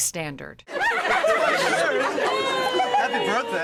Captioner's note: laughing